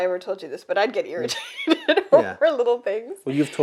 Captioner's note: laughs